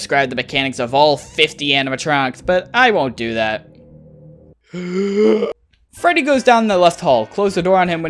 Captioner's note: inhale